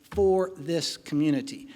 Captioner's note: none